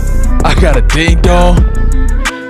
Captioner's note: laughs slightly